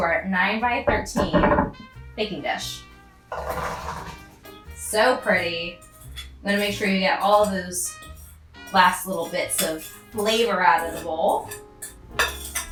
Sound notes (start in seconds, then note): 3.3 cranberries rolling; 12.4 spoon clanking